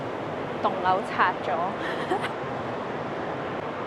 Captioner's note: haha